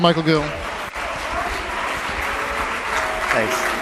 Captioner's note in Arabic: تصفيق